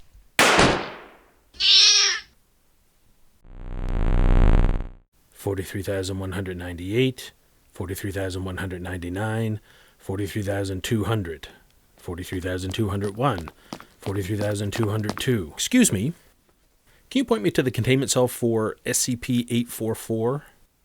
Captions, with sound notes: [meowing] 43,198, 43,199, 43,200, 43,201, 43,202... Excuse me. Can you point me to the containment cell for SCP-844?